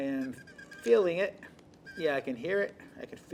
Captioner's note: squeaking